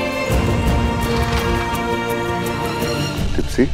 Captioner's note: Cupboard door closes